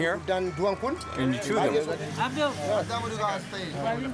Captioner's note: indistinct chatter